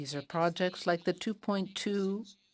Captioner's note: speaking in French